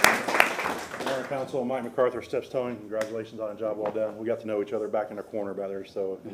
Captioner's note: applase